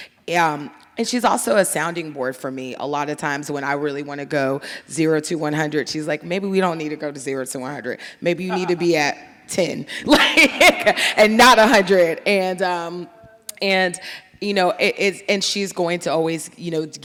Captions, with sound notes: And she's also a sounding board for me. A lot of times when I really wanna go zero to 100, she's like, maybe we don't need to go to zero to 100. Maybe you need to be at 10 (laughs) and not a hundred. And, you know, and she's going to always, you know,